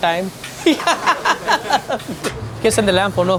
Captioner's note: laughing